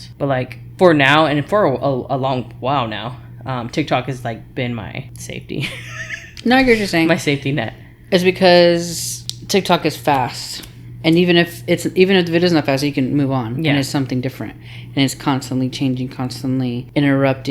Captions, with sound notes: But for now, and for a long while now, TikTok has been my safety. (laughs) - Now you're just saying-- - My safety net. is because TikTok is fast. And even if it isn't fast, you can move on. And it's something different. And it's constantly changing, constantly interrupting